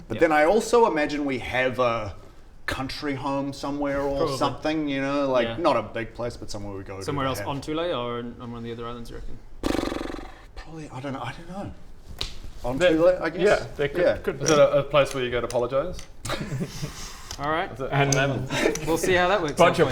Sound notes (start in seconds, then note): 9.6 brrrrr; 16.2 begrudging chuckle